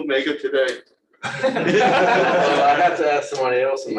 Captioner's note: laughter